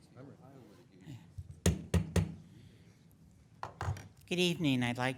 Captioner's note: gavel tapping